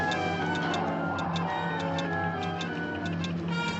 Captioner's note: ticking